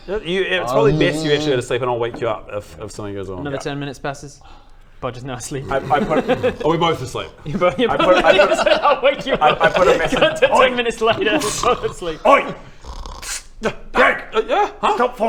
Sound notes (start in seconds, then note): 8.1 laughs; 12.7 snore